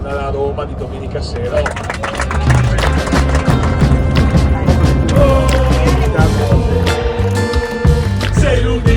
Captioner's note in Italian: Applauso